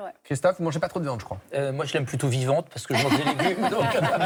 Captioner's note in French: rires